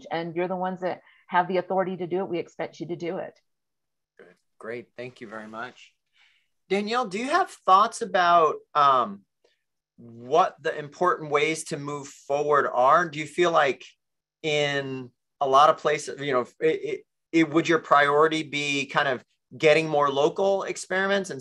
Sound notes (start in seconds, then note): none